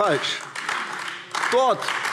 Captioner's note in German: Beifall AfD